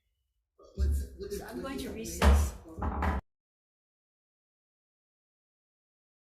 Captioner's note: gavel bangs